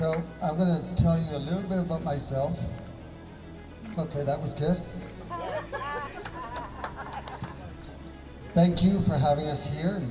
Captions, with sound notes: So I'm gonna tell you a little bit about myself. Okay, that was good. (audience laughing) Thank you for having us here